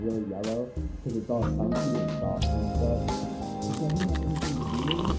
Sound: voice fades to mumbling; slurps

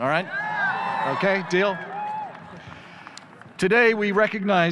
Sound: audience cheers

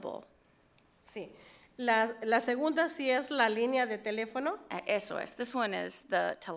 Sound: speaks foreign language

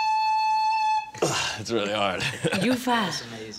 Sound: sighs; laughs

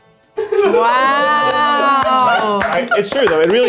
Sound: laughing

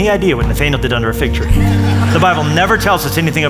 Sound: laughter

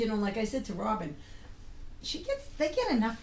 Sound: voiceover

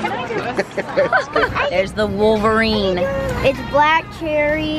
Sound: laughs

